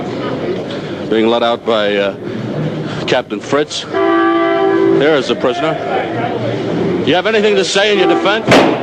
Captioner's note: gunshot